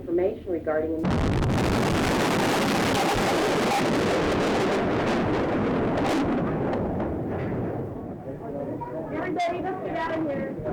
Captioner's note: explosion roaring